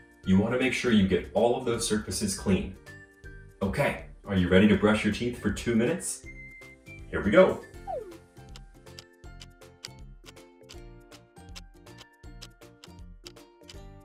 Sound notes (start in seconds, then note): 8.8 clock ticking